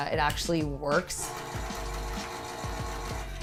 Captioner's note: electric can opener whirring